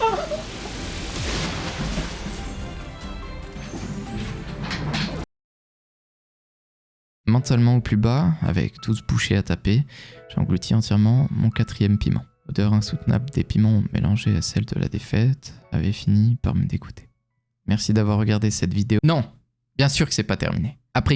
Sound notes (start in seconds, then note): 0.0 sobs; 4.6 chair noise